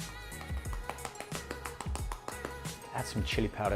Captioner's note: tapping